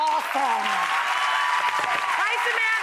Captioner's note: audience cheering